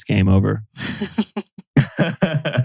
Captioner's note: laughs